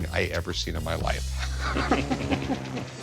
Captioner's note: Rick laughing